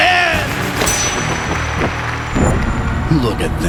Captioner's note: crowd clapping celebratorily